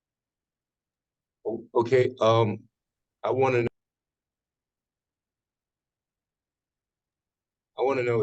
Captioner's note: audio cuts